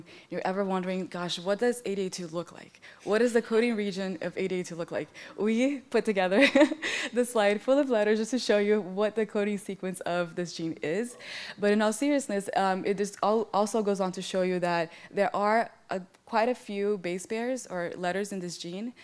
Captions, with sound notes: and you're ever wondering "Gosh, what does ADA2 look like? What is the coding region of ADA2 look like?" We put together [laughs] this slide full of letters just to show you what the coding sequence of this gene is. In all seriousness it also goes on to show you that there are quite a few base pairs or letters in this gene